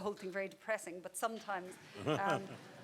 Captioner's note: people laughing